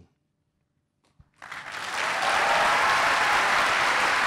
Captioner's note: applause